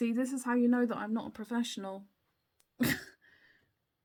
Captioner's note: laugh